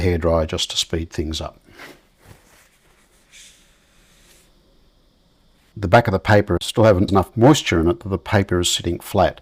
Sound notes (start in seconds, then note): 1.9 silence